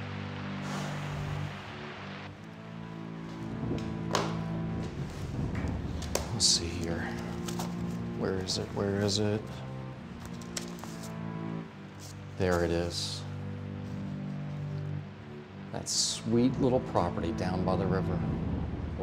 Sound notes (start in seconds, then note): 0.2 ominous music; 0.6 Chandler sighs deeply